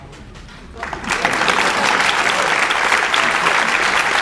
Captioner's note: audience applauds